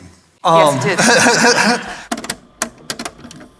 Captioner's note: audience laughter; cassette player clicks closed